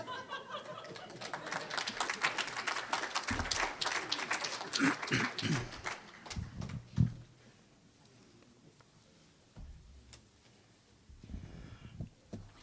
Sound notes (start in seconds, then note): 0.0 audience laughing; 0.5 applause